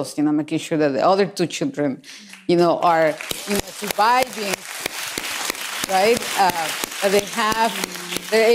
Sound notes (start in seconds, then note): 2.8 applause